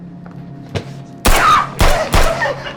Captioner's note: suspenseful music; object thuds; gun bangs; Lada gasping; Phil laughing